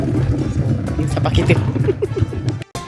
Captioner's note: laugh